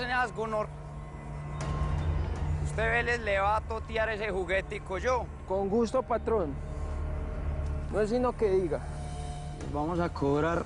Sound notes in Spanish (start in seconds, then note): none